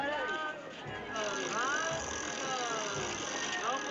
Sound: wheel Spinning

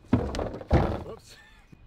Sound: Toter banging

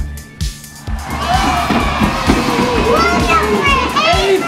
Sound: applause and cheering

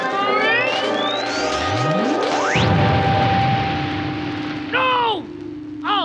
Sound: machine whirring

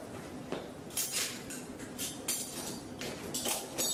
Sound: clinking

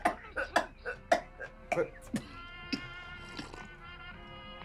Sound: Mrs Webb coughing

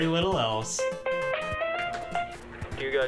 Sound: phone ringing

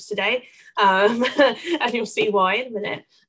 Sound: laughs

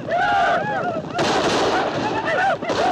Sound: gunfire

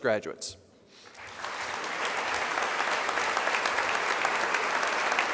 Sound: crowd applause

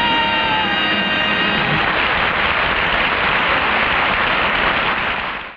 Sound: audience applauds

